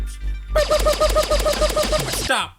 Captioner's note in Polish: pew pew pew pew